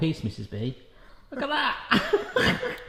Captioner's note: laughs